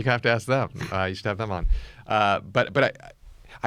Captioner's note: laughs